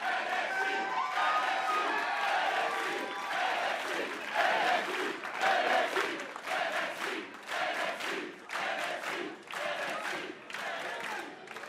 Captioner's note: fans chanting